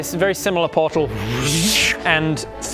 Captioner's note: wrrrrsch